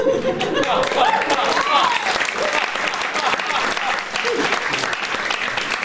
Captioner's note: applause